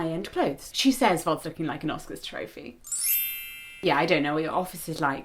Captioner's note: twinkling SFX